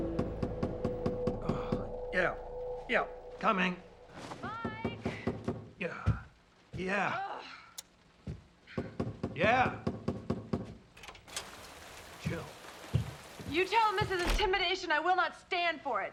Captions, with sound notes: (fist pounding) - (groans) Yeah, yeah. Coming. - Mike! (fist pounding) - Yeah, yeah. (Jill grunts) (fist pounding) Yeah. Jill. - You tell them this is intimidation. I will not stand for it.